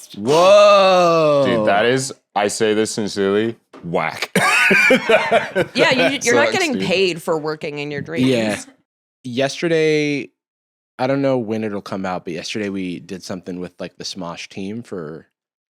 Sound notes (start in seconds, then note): 4.2 laughs